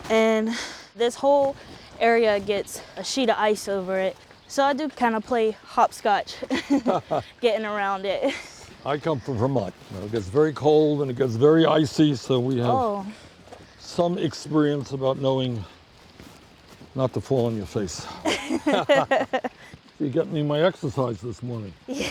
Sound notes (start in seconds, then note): 6.4 chuckles; 18.1 both laughing